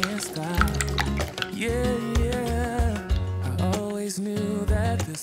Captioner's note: crunchy